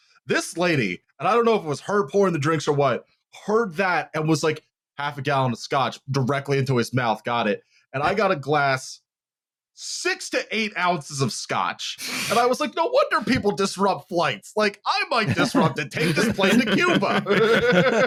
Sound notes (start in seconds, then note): 15.2 laughter